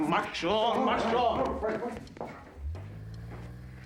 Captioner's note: speaking german